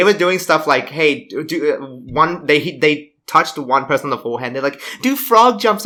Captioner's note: stammers